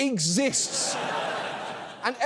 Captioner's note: audience laughs